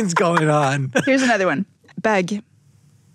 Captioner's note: foreign language